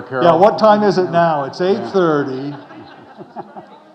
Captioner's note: audience laughing